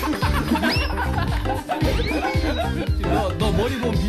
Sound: can't stop laughing

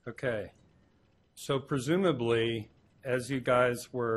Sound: none

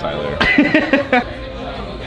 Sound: laughs

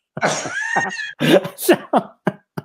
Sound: laughter

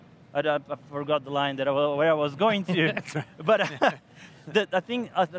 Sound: laughs

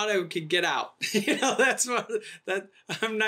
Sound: laughing

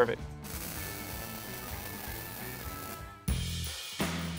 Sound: electricity crackling

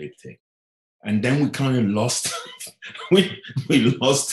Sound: laughing

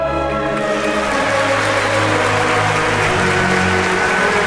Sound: audience applauds

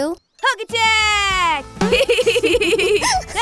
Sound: giggling

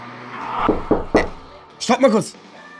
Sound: knocking on the door

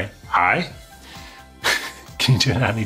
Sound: chuckles

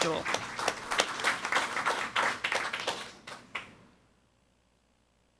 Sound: audience applauding

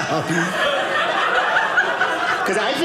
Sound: audience laughing

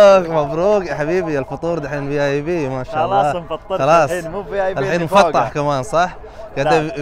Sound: Arabic

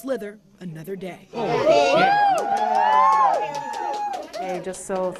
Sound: staff cheering

